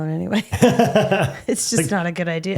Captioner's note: laughing